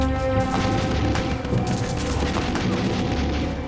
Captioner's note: ominous music; guns firing